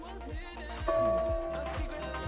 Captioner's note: bell chiming